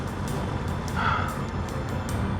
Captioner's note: sigh